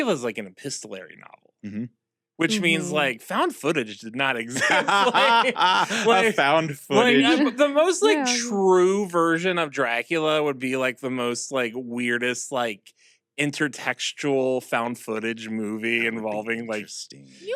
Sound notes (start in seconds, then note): 4.2 laughs